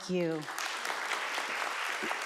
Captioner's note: audience applauds